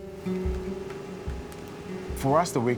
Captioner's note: soft guitar music; grain grinding